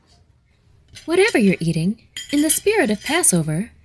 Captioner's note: dishes clattering